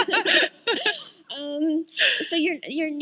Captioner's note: laughter